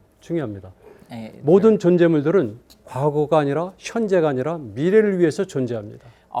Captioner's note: speaking in Korean